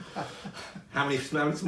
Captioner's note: laughing